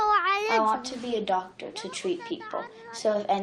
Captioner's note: through translator